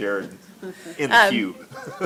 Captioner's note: laughs